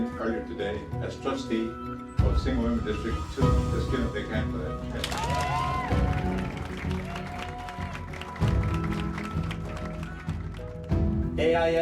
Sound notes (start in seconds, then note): 10.1 cheers and applause